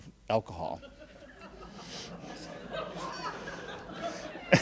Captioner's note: laughing